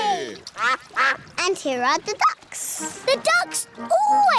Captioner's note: quacking